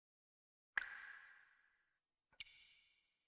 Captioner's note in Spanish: Suena una gota